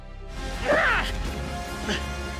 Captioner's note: grunting